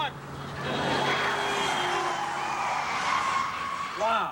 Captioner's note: horn blares